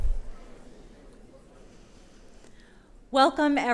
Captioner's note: audience Sound